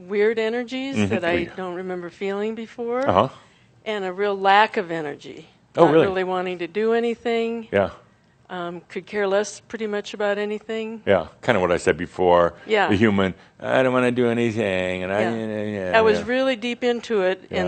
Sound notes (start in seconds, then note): 15.3 whiny voice